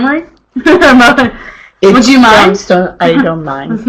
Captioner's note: chuckles